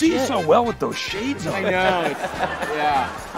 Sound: laughter

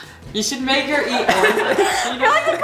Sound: crowd laughs

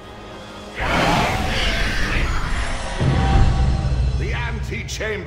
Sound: Shriekwing wails

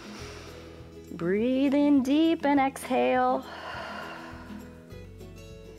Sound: exhales

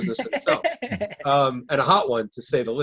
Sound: laughing

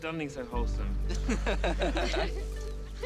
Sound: laughing

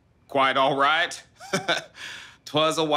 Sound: Wendell chuckling

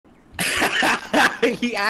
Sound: laughter

